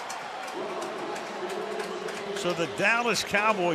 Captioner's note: pa announcement